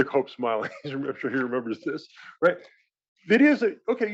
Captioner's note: laugh